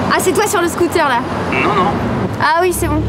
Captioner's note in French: au téléphone